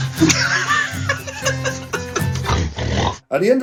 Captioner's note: drunken blubbering; laughing; snoring